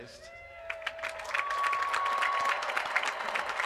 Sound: applause

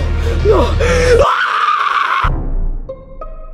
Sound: Luigi screams; suspenseful music

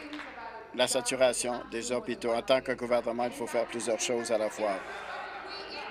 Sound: applause

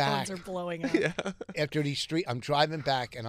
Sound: laughing

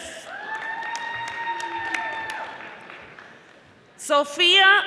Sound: audience applauding

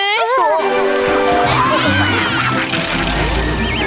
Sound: cheering

